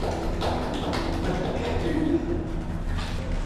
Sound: applause to those who came in late too haha

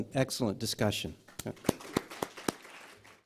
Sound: applause

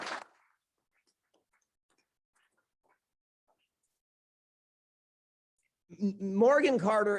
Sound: clapping

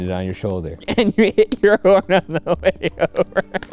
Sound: laughs

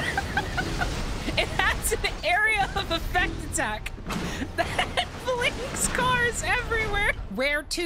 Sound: laughing; laughing

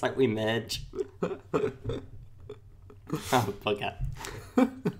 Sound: laughs

